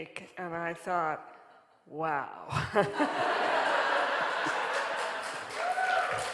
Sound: audience laughing

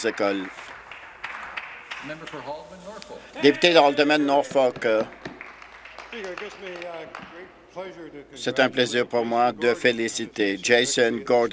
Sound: some Applause

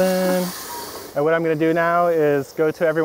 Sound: water trickling

